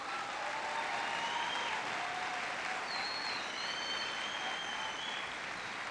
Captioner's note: applause